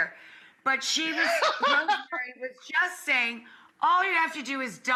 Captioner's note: laughing